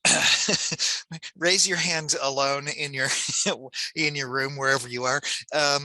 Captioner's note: laughs